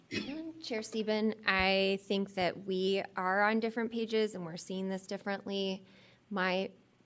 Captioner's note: clears throat